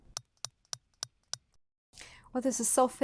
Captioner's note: fast clicks